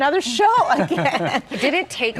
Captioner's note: laughing